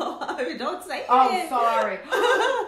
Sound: giggling

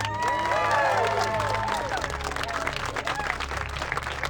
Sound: cheers

